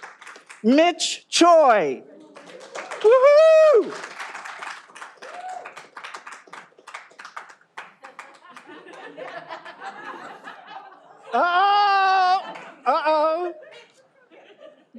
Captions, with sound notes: Mitch Choi (audience applauding) - Oh, go get it, yeah.